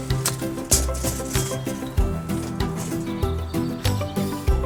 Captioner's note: 測定テープの音